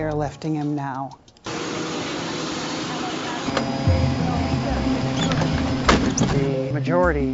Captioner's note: helicopter whirring